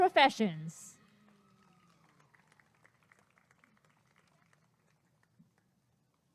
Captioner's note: applause and cheering